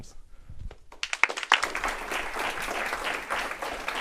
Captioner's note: applause